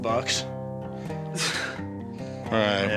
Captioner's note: exhales